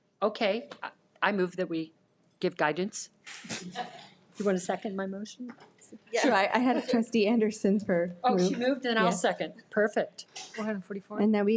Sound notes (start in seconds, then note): 3.6 participants laughing